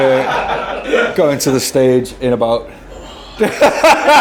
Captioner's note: all laughing; laughs